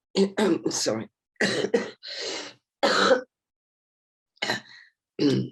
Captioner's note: coughing